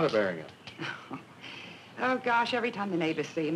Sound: chuckling

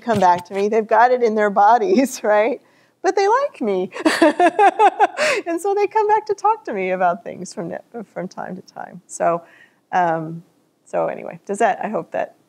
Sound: laughter

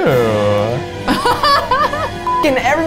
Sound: laughs

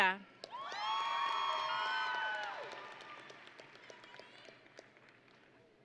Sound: audience and graduates cheering

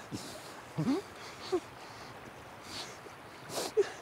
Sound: final breath; jim crying, sniffling

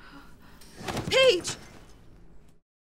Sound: Paige's body thumps

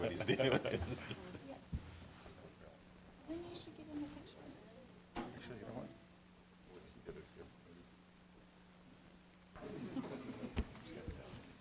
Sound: background conversation

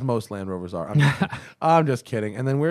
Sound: laughter

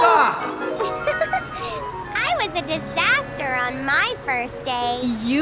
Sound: giggles

